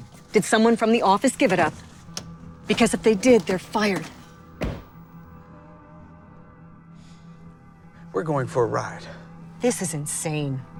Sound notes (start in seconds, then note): 2.7 car door opens; 4.6 purse hits floor; 4.6 car door closes